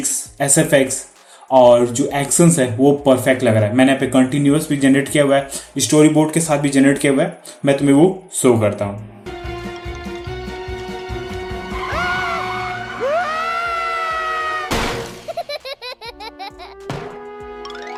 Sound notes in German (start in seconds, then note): 11.6 Schreischall; 15.2 Gelächter